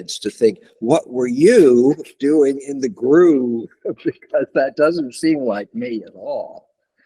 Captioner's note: laughter